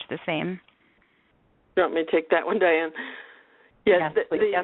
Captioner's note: laughs